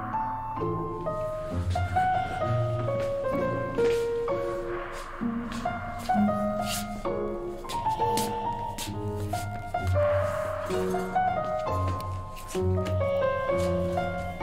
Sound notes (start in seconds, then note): 7.7 heavy breathing